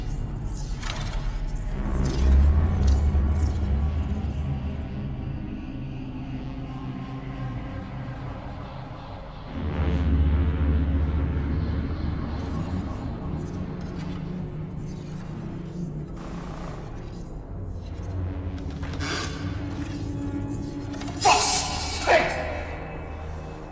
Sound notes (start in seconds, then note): 18.4 step creaking